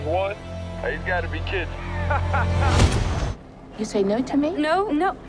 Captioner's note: laughing